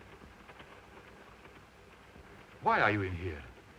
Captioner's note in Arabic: صوت خشخشة القطار